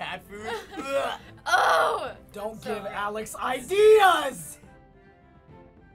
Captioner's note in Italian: Conati di vomito; con disgusto